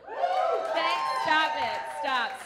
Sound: audience whoops

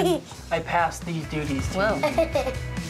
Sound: giggling

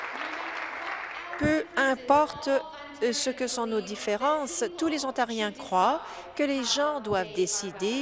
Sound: applause

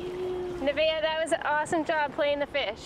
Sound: fish splashing

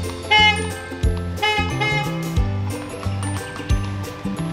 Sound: car horn honks

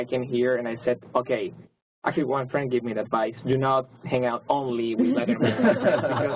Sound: laugh

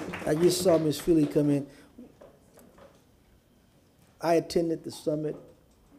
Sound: applause

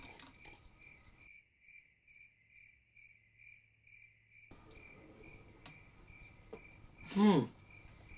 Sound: crickets

